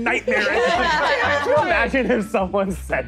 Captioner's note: players laughing